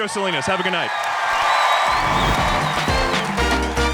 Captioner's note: audience clapping; upbeat music